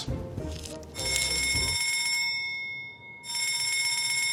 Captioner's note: alarm ringing